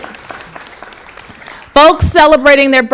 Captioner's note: applause